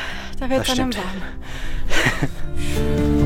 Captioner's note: laughter